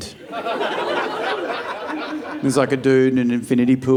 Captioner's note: audience laughing